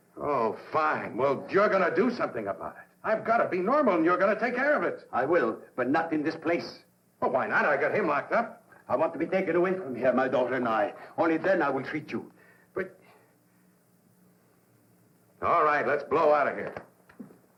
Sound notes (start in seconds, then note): none